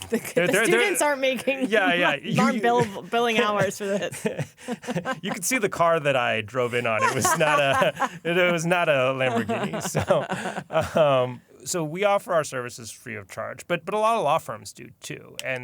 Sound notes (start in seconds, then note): 4.4 laughter; 9.9 laughter